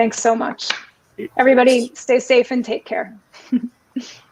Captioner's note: chuckling